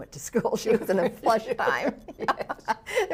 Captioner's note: laughs